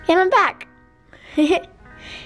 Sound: laughing

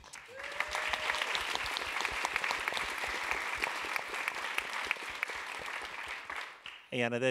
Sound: applause

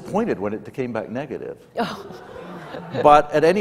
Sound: laughter

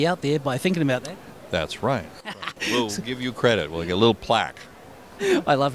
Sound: laugh

